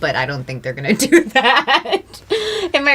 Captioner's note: laughter